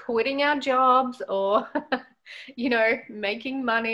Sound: laughs

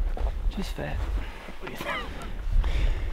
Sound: laughing

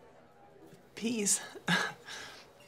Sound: laughs

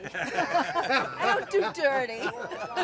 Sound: laughter

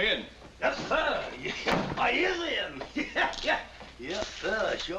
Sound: chuckles

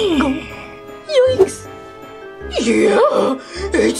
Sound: gulps

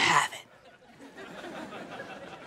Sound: laughing

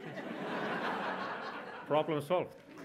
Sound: audience laughs

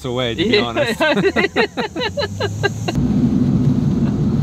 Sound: laughing

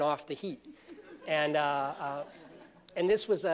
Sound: laughter

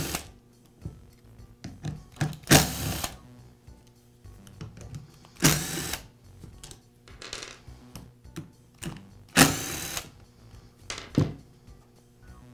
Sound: screwing tool sound

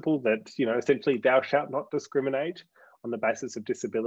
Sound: saying sarcastically

